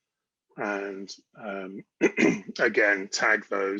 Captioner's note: clears throat